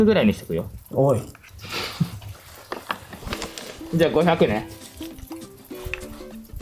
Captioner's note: laughs